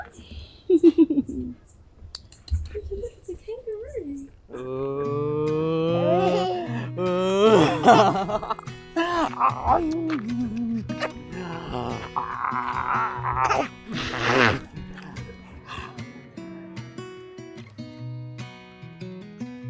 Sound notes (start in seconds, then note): 0.6 laughs; 5.9 giggling; 8.4 laughing; 13.9 giggling; 16.4 mellow guitar music